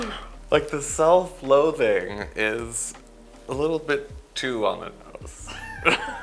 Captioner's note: laughter